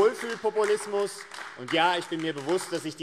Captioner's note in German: Beifall AfD